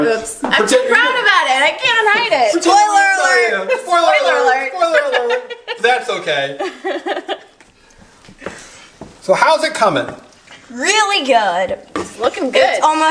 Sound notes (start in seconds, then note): 6.6 laughing